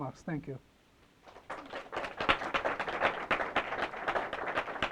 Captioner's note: applause